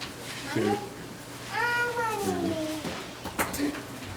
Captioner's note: baby talking